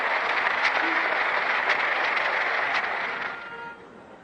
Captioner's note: applause